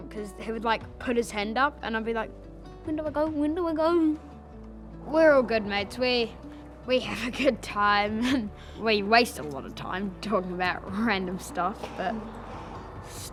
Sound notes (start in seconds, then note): 6.5 giggles